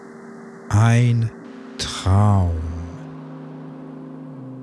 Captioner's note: german